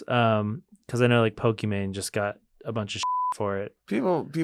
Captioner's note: beep